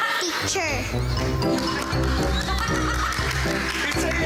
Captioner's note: jugdes laughing